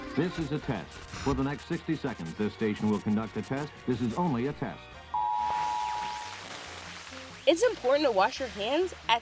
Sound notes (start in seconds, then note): 5.2 machine beeps; 5.4 static crackling